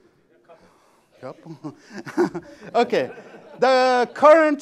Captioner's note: laughter